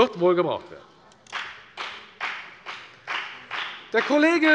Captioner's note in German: Beifall bei der FDP